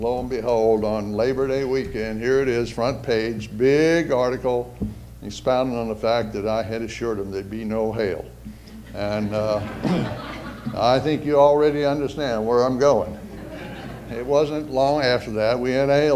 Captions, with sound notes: on Labor Day weekend here is it is front page, big article, expounding on the fact that I had assured him there would be no hail. [ Audience laughter ] And, uh, I think you already understand where I'm going. [ Audience laughter ] It wasn't long after that we had a